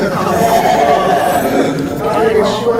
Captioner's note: haha